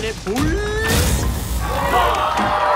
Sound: electricity buzzing; crowd cheering

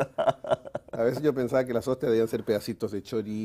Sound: ríe

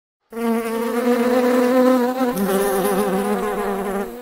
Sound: animals buzzing

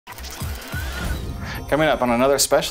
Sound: whirring

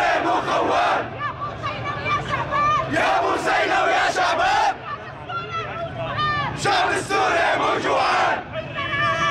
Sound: protestors chants; protestors chants; protestors chants

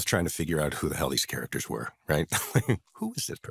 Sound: chuckles

